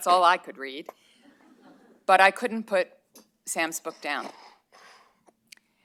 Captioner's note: laughter